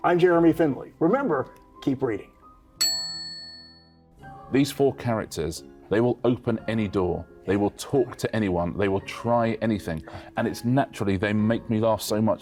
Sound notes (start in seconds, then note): 2.8 bell dings